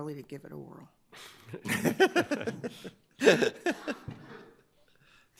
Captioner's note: judges laugh